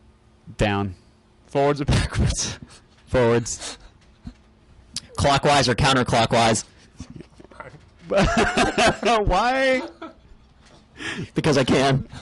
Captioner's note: laughs